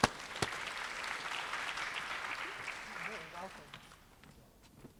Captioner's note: applause